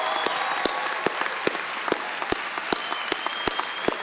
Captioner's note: applause